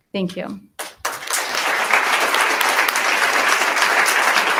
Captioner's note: attendees applauding